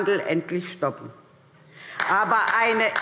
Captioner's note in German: Beifall DIE LINKE